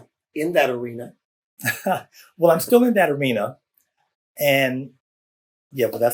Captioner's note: laughs